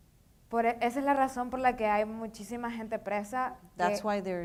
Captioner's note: speaking in foreign language